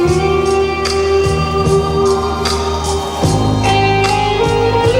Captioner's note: applause